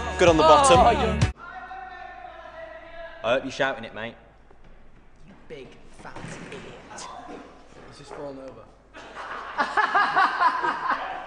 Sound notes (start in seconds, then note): 9.0 laughs; 9.0 loud laugh